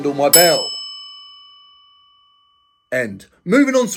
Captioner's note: bell dings